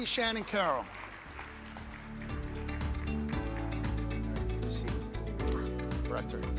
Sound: audience applauds; upbeat music

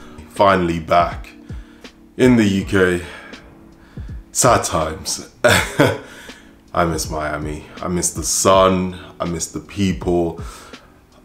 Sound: laughs

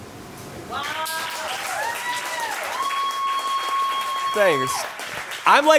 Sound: audience cheers and applauds

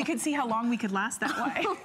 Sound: laughter

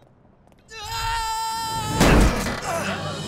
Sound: screaming, thudding

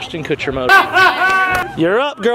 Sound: laughing

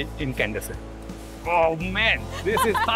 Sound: laughing

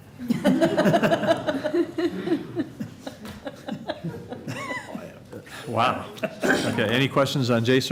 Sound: laughter

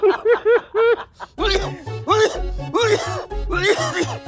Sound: coughs

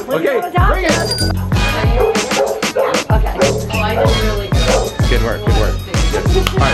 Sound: bell ringing

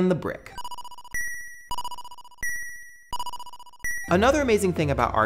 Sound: 8-bit chiming

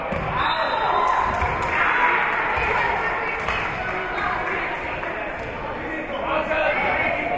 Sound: whistle being blown; spectators cheering and applauding; spectators shouting encouragements

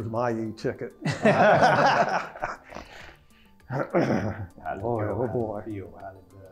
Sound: laugh

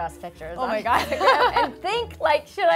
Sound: laughs

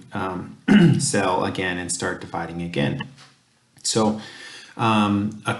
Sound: cough

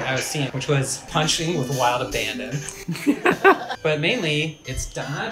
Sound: laughs

